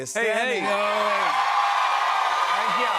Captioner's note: cheers and applause